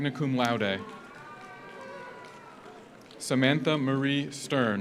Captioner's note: audience cheers; audience applauds